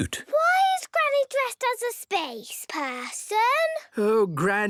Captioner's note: none